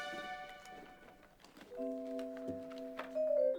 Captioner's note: objects clatter; gentle music